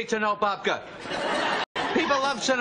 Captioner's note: laughing